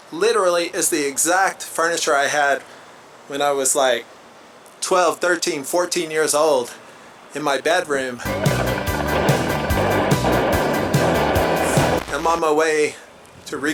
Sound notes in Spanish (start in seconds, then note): 8.3 Sonido de explosiones